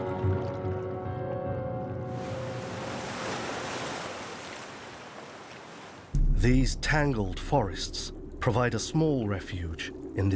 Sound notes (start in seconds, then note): 2.1 waves crashing